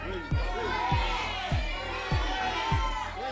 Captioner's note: audience shouting numbers